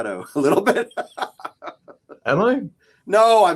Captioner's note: laughs